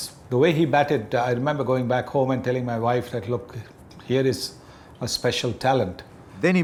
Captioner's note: none